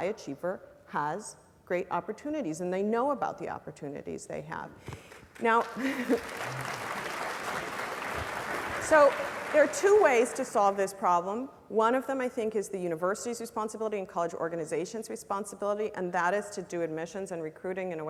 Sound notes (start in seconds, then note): 5.0 applause; 5.8 laugh